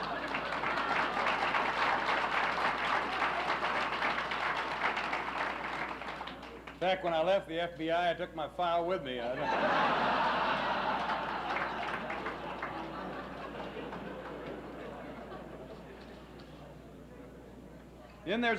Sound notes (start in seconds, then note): 0.0 laughs; 0.0 applauses; 9.3 laughs